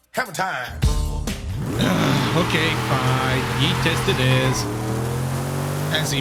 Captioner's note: groan